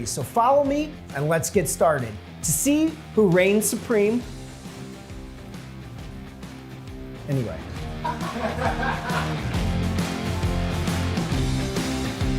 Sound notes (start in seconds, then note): 7.9 audience laughing; 9.4 hard rock music